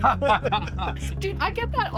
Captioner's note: laughter